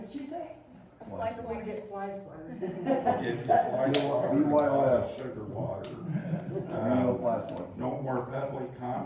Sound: laughter and chatter

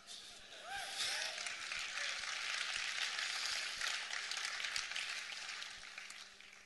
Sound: hoots and applause

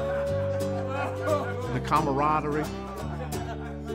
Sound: laughter

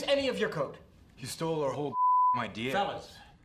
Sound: beeps

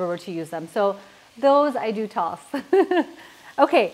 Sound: pan sizzling

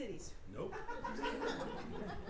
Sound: laughter

